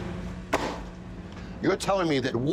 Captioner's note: pan slams